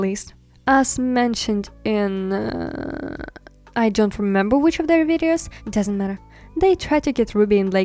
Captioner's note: weird thinking noise